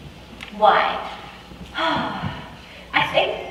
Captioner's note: sighs